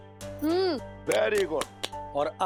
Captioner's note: claps